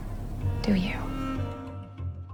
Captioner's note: voiceover